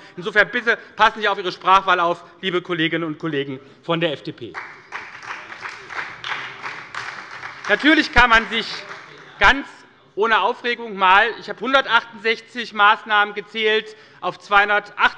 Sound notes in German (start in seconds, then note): 4.5 Beifall bei der SPD, dem BÜNDNIS 90/DIE GRÜNEN und der LINKEN